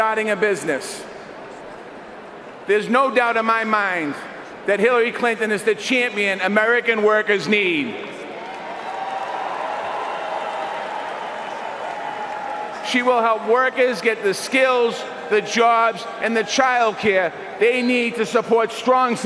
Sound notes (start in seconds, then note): 14.5 cheers and applause